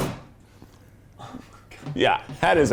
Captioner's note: bread bangs on table